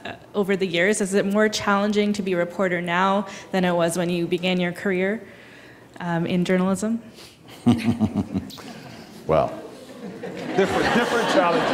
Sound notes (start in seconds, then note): 7.5 chuckling